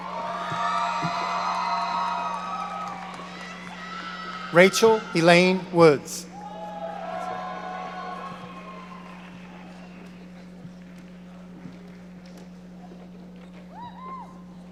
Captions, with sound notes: (audience cheering) Rachel Elaine Woods. (audience applauding)